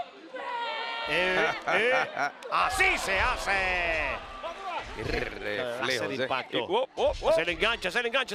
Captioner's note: laugh